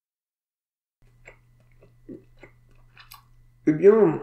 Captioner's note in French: bruits de mastication